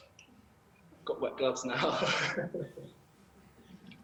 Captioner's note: laughter